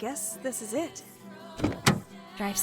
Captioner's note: window rolls down; car door closes